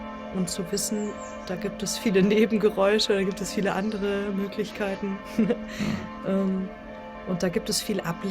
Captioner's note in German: schnauben